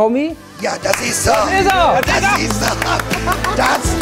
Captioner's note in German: Jubel